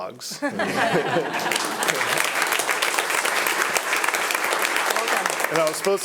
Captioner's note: attendees laughing; attendees applauding